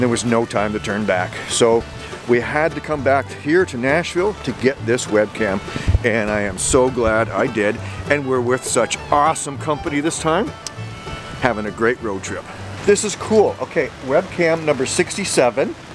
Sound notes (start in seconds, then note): none